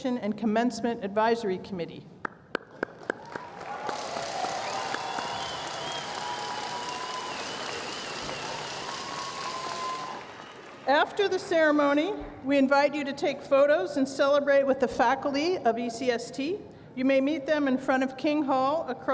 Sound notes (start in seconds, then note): 2.8 cheers and Applause